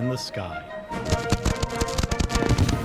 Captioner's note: fireworks popping; fireworks swishes and crackles